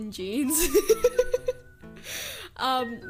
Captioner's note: laughs; inhale